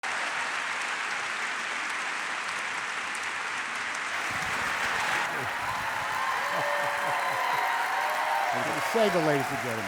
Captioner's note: applause